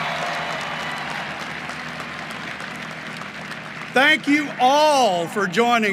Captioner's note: applause